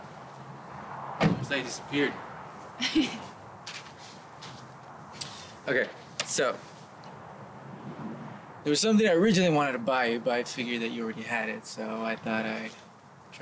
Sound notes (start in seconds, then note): 2.8 she laughs; 3.7 he inhales